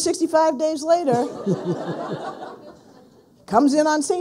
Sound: people laughing

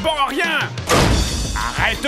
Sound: anime hammer smash sond

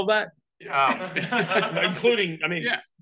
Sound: all laugh

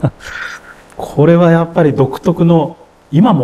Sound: laughs

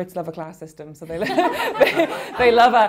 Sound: laughing

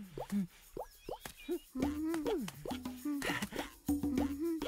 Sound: humming tune

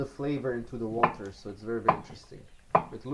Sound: knife thumping

